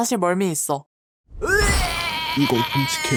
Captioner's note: Bacon vomits